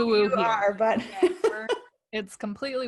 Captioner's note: laughing